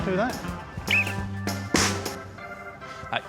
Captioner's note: whistle blows